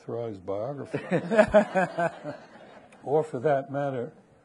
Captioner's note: people laughing